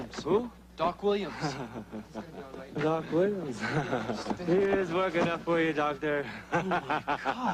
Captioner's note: laughs